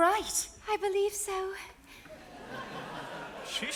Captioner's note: audience laughs